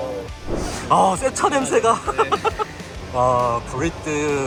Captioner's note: laughs